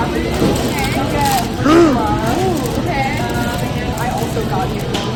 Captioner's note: gasp